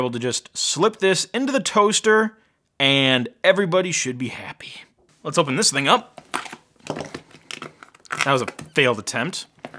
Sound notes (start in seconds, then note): 6.8 plastic ripping